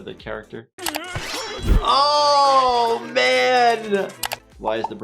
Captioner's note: blade slicing